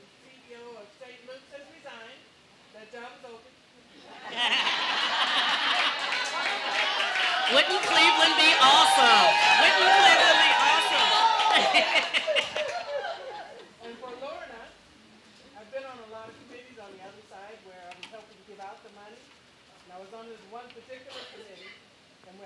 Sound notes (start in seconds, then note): 4.0 audience laughing